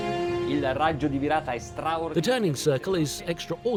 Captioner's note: dramatic music; speaking in a foreign language